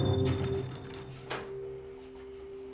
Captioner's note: door opens